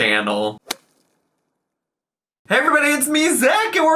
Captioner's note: logo smacking